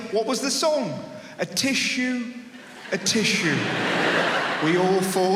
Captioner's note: audience laughs